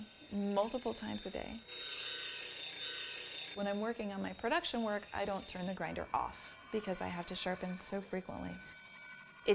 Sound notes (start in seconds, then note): 1.9 grinder buzzing